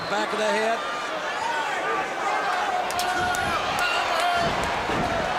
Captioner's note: crowd chatter